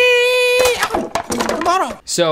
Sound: wood smashing

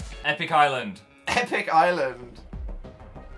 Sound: laughs

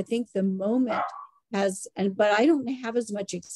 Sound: dog barking in background

